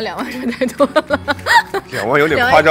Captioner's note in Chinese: 哈哈哈哈哈